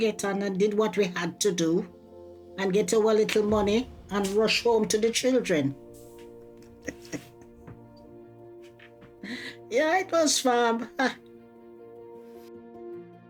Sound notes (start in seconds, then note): 6.6 laughing; 9.2 chuckles